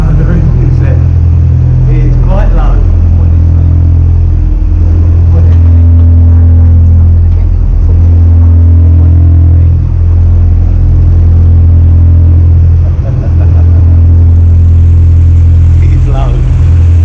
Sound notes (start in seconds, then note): 12.6 chuckling